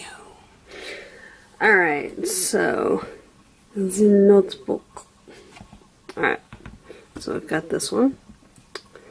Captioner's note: bad French accent